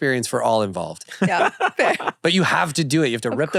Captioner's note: laughs